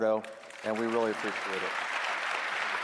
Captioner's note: applause